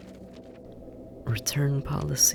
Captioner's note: SFX: papers rustling; muttered